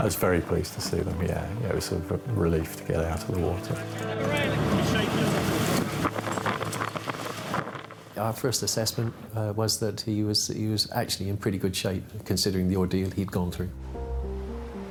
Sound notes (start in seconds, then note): 4.3 crew chattering; 4.3 soft music continues; 14.7 soft music continues